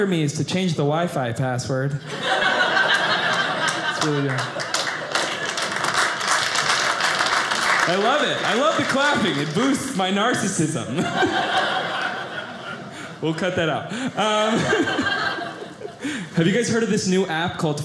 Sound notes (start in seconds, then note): 2.0 audience laughing; 5.6 audience applauding